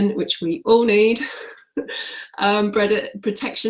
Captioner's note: laughs